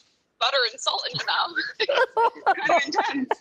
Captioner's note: laughter